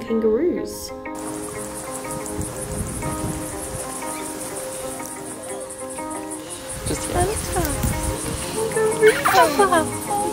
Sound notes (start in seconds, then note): 0.1 insects chirping; 2.6 wind blows; 3.4 gentle music